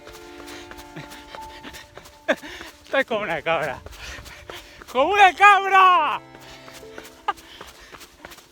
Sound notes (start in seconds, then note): 2.1 laughing; 3.3 shouts in foreign language